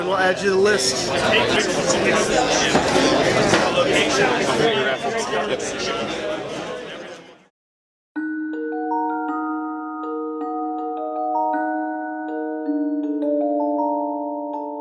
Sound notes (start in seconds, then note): 2.3 people chattering; 8.2 light magical music